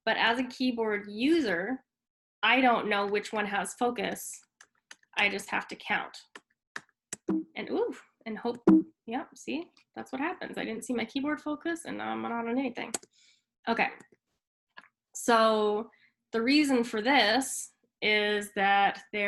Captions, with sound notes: but as a keyboard user, I don't know which one has focus. I just have to count. (keyboard clanking) And oh and hope, yap see, that's what happens. I didn't see my keyboard focus and I'm not on anything. Okay. So, the reason for this is that